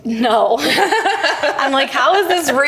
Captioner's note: laughing